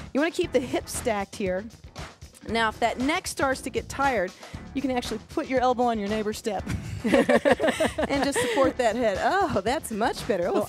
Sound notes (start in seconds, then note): 6.7 both laugh